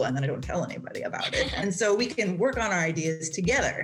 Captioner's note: laughs